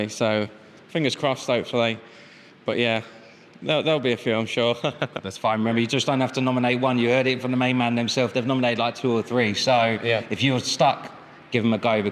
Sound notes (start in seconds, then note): 4.7 chuckles